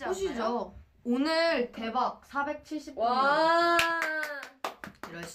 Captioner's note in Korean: 짝짝짝